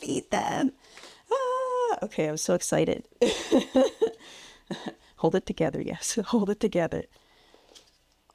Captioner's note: laughs